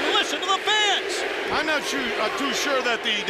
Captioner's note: crowd cheering